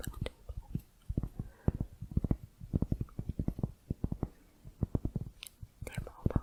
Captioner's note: tapping on cork